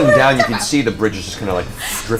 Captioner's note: all laugh